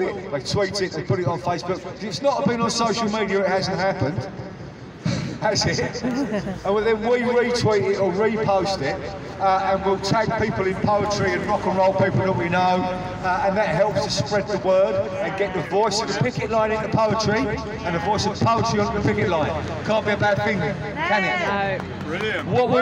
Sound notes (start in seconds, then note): 6.0 laughter